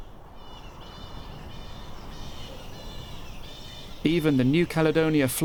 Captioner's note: bats squeaking